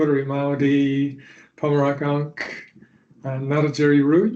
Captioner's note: Speaking in Ngarrindjeri language